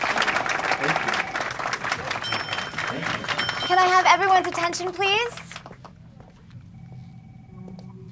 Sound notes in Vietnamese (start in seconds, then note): 1.7 chuông reo